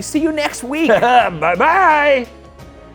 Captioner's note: laughs